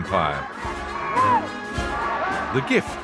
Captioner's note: shouting